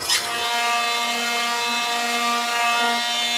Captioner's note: loud whirring